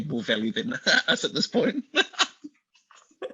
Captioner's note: laughs